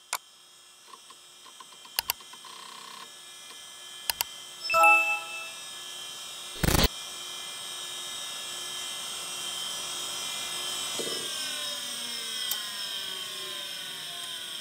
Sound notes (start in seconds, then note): 0.0 clicking; 4.6 dinging